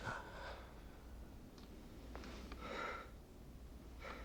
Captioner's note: sighing